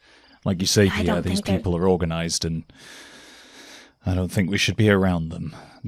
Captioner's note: inhales